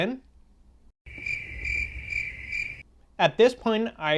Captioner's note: crickets Chirping